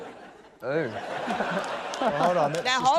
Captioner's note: laughter